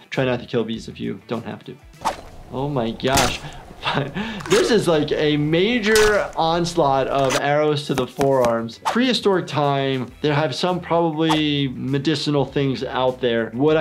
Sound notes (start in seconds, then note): 2.0 cracking; 2.5 chuckles; 4.6 cracking continues